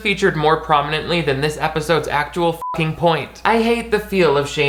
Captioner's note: beep